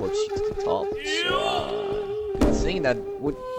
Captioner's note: guy moaning in the background agrees